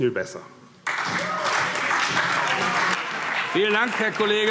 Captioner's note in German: Beifall